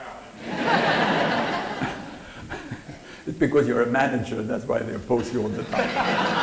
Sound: laughter

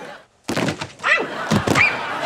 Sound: screaming

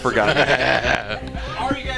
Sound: laughing

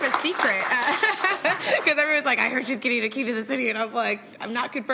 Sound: applause

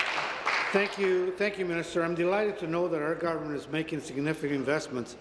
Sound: applause

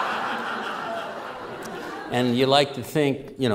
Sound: raucous laughter

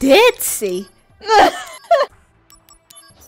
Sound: friend laughs

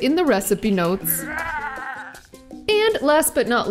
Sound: grunts

